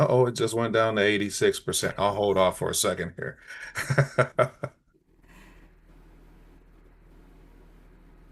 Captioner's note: light laugh